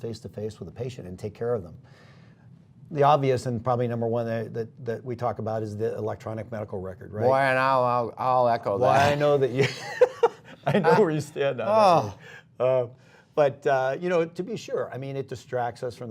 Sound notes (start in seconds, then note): 9.4 laughter